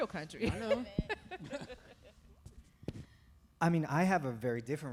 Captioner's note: chuckle